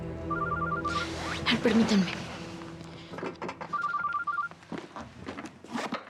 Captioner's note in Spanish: suena el celular